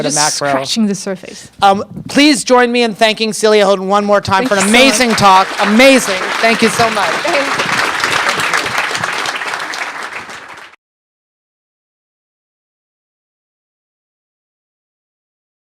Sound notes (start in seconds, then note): 4.4 audience applauds